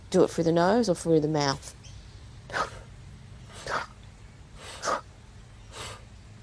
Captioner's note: slightly louder exhalations